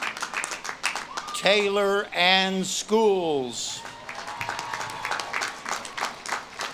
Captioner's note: audience claps and cheers